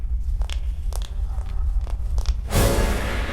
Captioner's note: footsteps